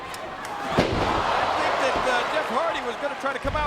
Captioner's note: wrestlers thudding